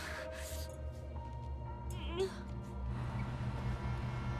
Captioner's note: breathing heavily; groans